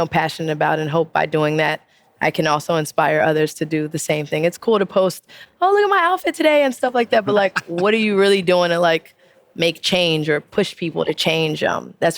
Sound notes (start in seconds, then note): 7.2 person laughing